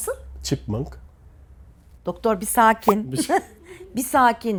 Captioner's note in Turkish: kahkaha